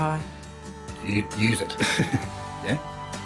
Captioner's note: laughs